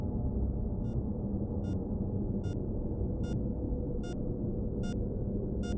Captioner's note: heart monitor beeping